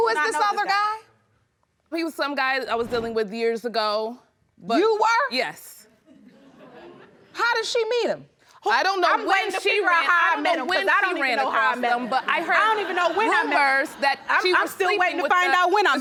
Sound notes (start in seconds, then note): 6.4 audience giggling